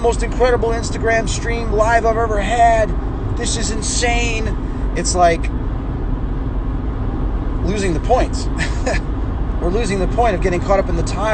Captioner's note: heh